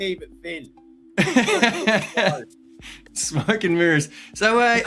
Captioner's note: laughing